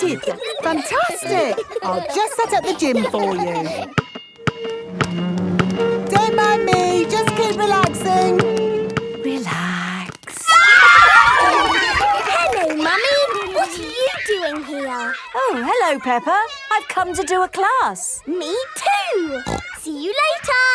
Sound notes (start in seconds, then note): 4.7 chair scraping; 10.3 kids screaming; 10.7 laughter; 19.3 snorting